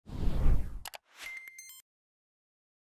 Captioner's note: whooshing